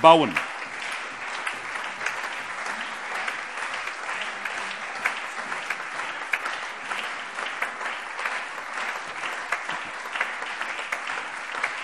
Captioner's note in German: Lebhafter allgemeiner Beifall